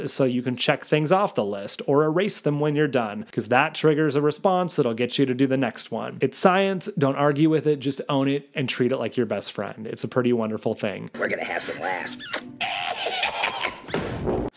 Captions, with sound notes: so you can check things off the list or erase them when you're done, 'cause that triggers a response that'll get you to do the next one. It's science. Don't argue with it, just own it, and treat it like your best friend. It's a pretty wonderful thing. - We're gonna have some laughs. (kiss smacking) (laughing)